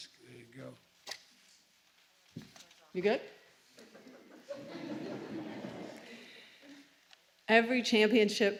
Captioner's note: laughter